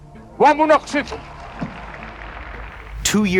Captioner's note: crowd applauds